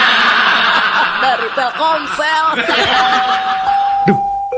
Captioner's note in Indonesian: tertawa